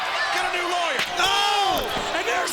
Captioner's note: chair thudding